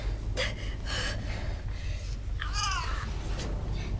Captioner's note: Belle grunting